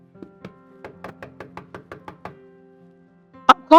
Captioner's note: knock at the door